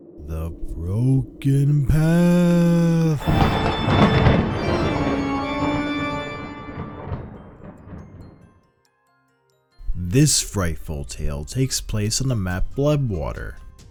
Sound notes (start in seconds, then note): 0.8 in an exaggerated spooky voice; 3.8 thunderclap